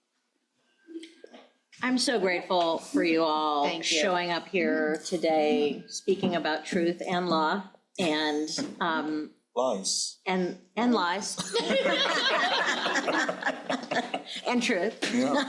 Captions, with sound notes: - I'm so grateful for you all showing up here today, speaking about truth and law and- - Lies. - And lies. (crowd laughing) And truth. - Yeah.